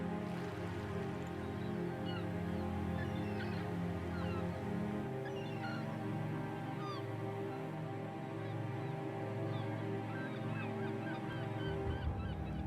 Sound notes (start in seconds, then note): 0.2 waves lapping; 1.4 gulls shrieking